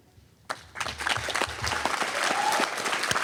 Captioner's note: applause